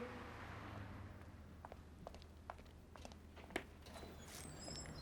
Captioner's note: footsteps tapping; door creaking